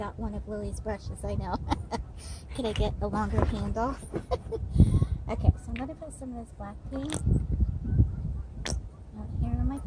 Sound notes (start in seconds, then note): 1.4 laughter; 4.5 laughing